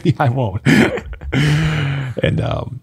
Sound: men laughing

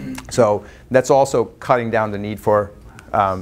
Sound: none

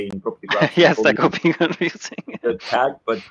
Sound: chuckles and mumbles

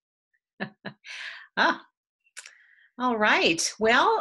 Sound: chuckles

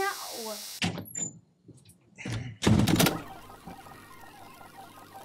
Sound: tape whirring

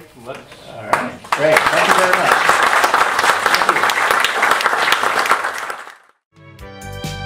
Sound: applause

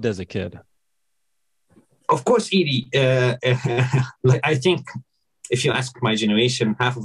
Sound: chuckles

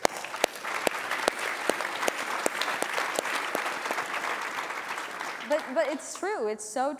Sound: applause

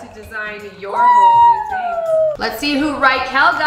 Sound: shouting drowns out voice

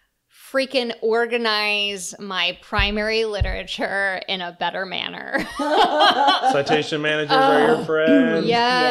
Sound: laughter, : citation manager!

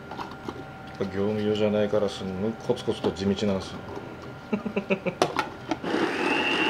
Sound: laughs

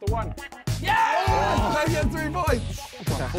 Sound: men cheering

